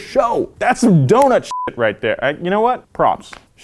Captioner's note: beep